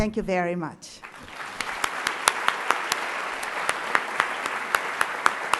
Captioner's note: applause